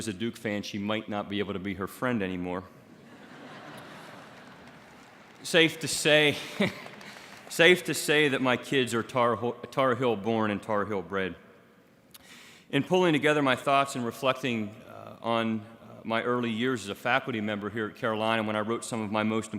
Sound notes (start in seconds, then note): 2.9 laughter